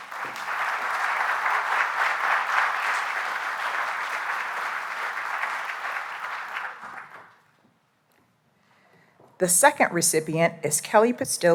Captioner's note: applause